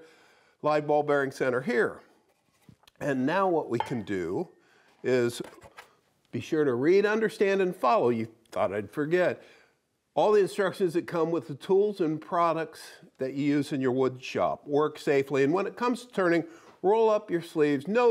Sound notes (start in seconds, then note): none